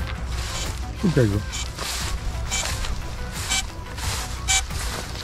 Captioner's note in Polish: słychać dźwięk silników